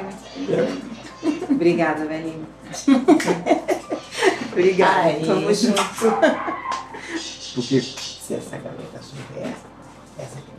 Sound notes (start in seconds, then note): 2.8 laughter